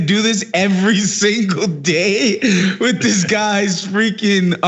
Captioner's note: laugh